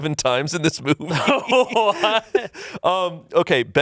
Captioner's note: laughs